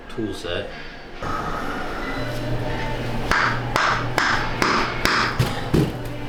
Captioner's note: clapping